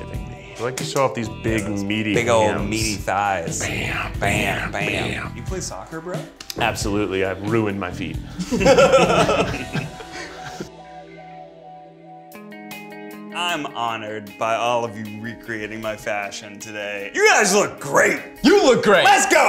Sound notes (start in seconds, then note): 8.3 group laughs; 12.5 bright guitar music